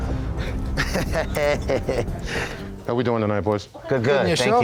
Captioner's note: chuckling